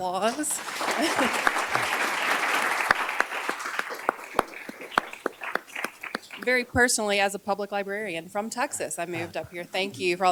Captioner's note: applause